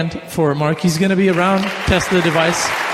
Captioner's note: audience applauding